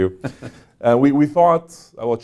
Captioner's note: chuckles